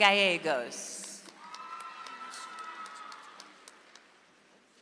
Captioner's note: audience applauds